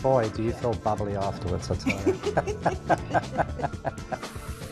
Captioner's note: laughter